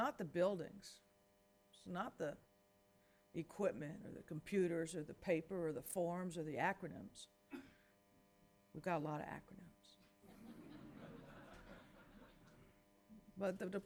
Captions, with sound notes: It's not the buildings, it's not the equipment or the computers or the paper or the forms, or the acronyms, we've got a lot of acronyms. (laughing)